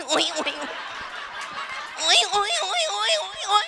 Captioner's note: crowd laughing and applauding